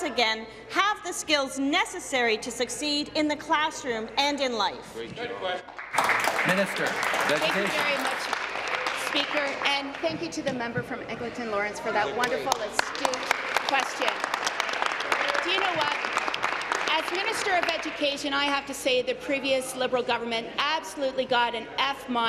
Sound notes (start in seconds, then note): 9.1 applause; 18.8 applause